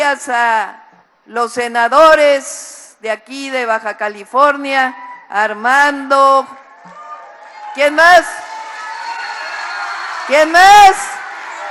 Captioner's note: applause